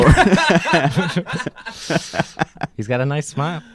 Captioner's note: laughing